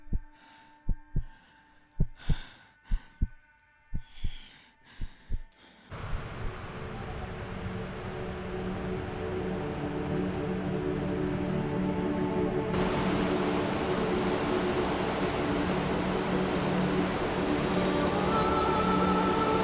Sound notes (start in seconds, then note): 7.4 ethereal music; 12.7 water falling